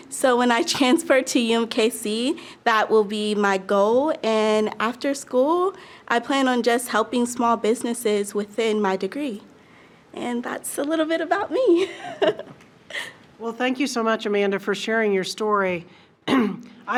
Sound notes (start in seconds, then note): 11.8 laughs